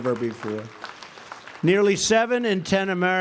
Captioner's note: applause